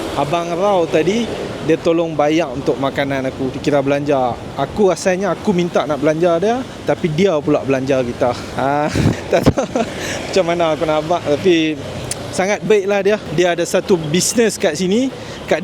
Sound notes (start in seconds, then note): 8.4 laugh